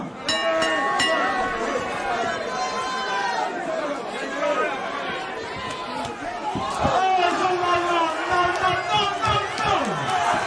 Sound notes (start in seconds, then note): 0.2 bell ringing; 6.1 crowd cheering